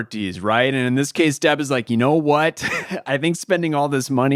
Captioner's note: chuckles